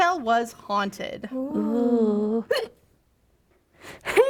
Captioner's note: hic